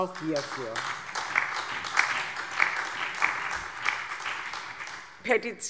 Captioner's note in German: Allgemeiner Beifall